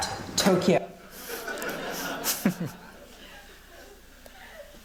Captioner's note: laughter